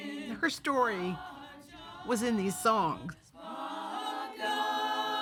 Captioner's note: voice breaking; hymn continues